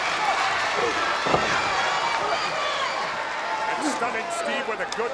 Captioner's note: crowd cheering